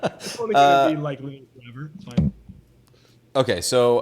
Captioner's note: laughs; sound distorts